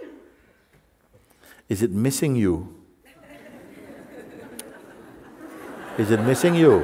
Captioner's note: Lachen